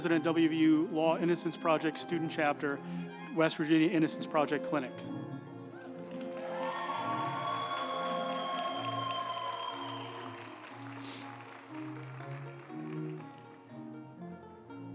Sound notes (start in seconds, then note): 5.7 group applauding; 6.3 uplifting music